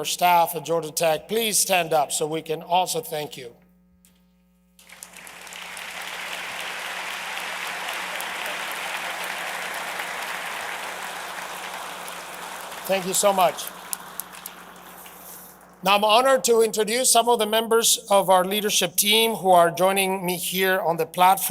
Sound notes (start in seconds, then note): 12.1 applause